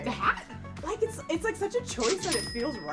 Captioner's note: cash register rings